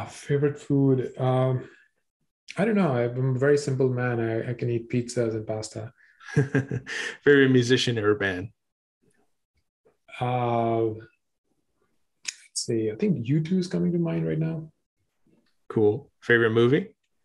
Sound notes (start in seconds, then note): 6.2 giggles